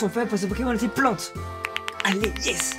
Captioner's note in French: Clapclapclap